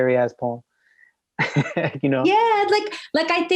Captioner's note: chuckles